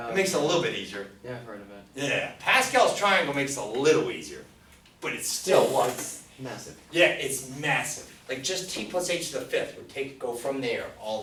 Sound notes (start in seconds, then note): 1.5 voiceover; 6.3 voiceover